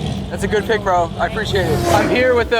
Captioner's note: car revs